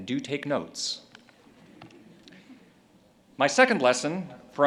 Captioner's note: audience chuckles